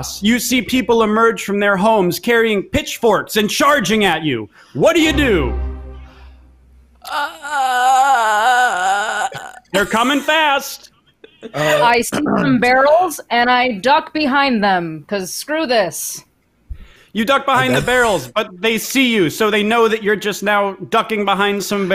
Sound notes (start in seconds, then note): 7.0 groans